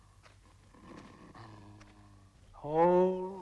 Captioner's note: dog growling